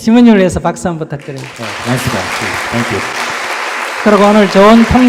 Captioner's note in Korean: 청중 박수